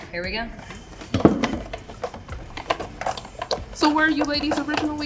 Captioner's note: rattling sound